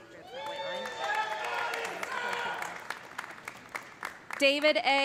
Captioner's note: audience cheering; audience applauding; audience member shouting